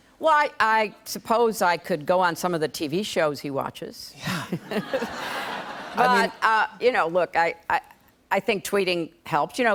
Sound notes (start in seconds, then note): 4.3 laughter